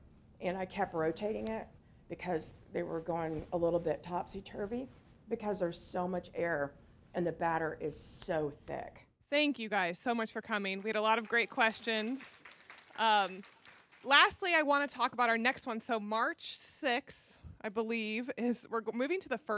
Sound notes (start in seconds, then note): 10.6 applause